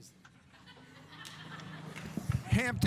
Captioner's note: audience laughing